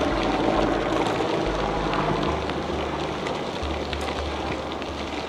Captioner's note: helicopter noises fade in the distance